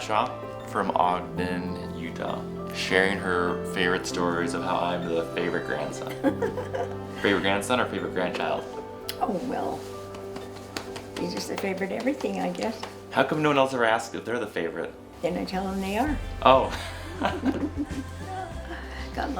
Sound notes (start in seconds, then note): 6.0 laughter; 10.0 patting leg; 16.7 laughter